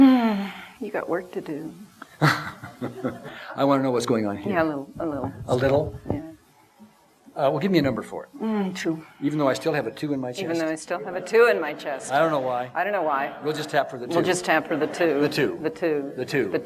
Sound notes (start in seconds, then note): 0.0 sighs; 2.1 laughter